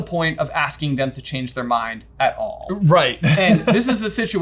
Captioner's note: chuckles